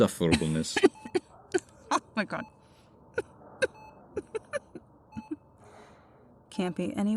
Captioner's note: coughing Laugh